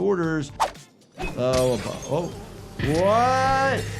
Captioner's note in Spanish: vidrio roto